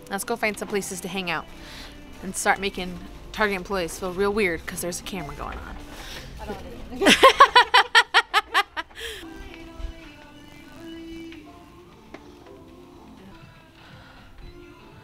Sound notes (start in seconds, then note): 7.0 laughs; 7.3 upbeat pop music